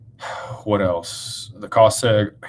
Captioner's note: sighs and gasps